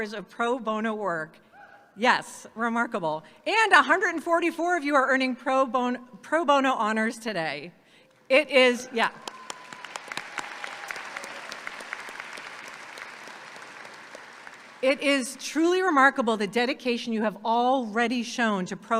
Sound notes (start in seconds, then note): 9.1 audience clapping and cheering; 9.1 claps